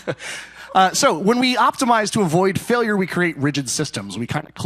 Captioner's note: laughter